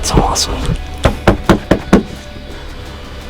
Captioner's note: sound of excited pounding on side of blind